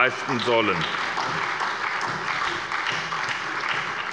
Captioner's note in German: Beifall bei der SPD